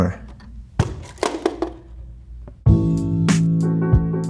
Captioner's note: clock thudding to ground; mellow music